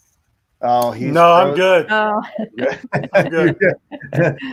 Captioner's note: laughing